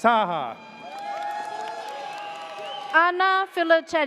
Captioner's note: audience cheers